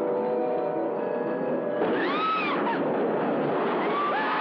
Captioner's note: screaming